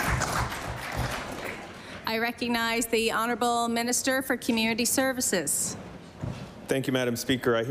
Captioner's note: applause